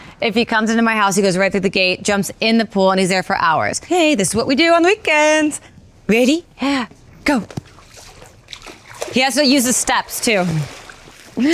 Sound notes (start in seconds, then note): 7.4 ball splashes